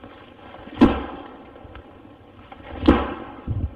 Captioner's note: banging